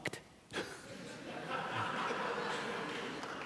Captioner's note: laughing